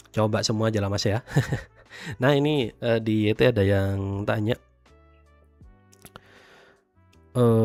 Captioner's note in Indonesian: tertawa